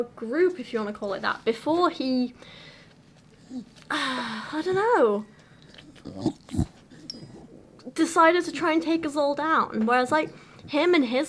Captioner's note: sigh